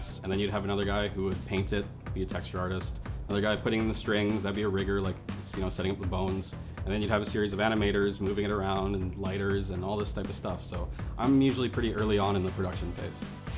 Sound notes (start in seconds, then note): none